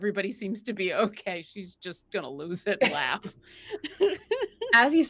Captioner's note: chuckles